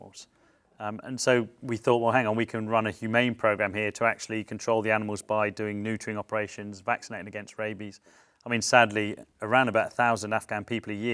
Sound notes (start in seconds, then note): none